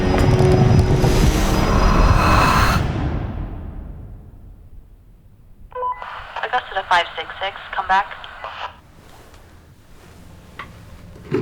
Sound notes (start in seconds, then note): 0.0 tense music continues; 1.4 creature growls and hisses; 5.7 radio beeps